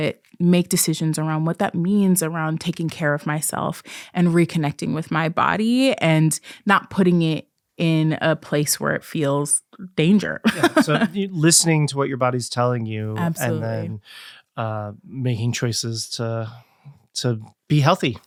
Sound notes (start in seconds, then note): 10.4 laughs